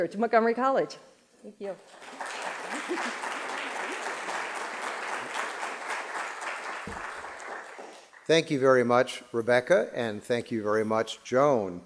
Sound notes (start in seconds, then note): 1.8 applause